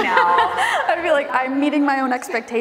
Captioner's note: laughing